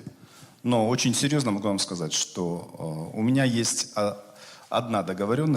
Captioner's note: speaking Russian